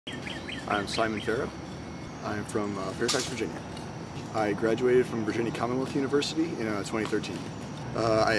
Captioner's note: chirping sound of birds